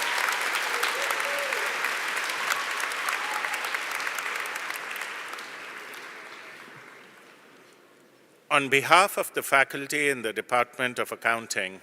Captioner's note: applause